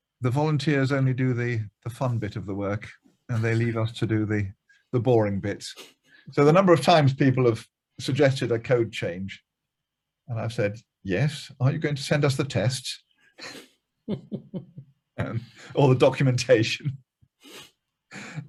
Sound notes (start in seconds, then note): 14.1 laughing loudly; 18.1 chuckles